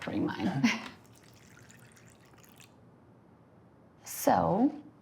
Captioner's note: coffee sloshing